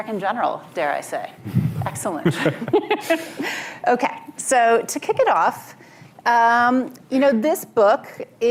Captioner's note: laughter